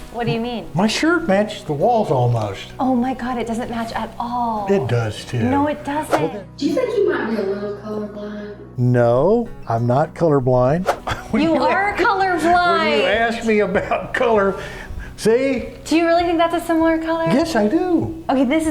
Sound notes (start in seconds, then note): 13.1 laughs